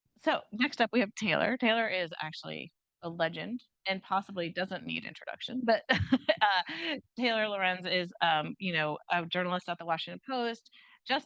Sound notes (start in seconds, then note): 5.9 chuckles